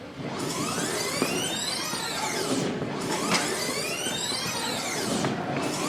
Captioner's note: tape rewinds and fast-forwards